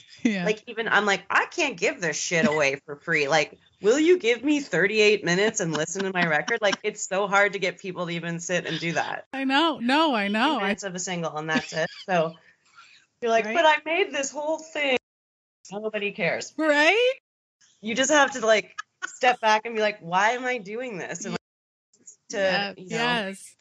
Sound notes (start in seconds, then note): 8.7 laughing; 11.5 both giggling